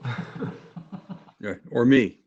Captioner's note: laughs